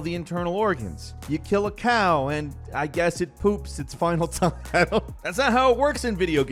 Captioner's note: laughs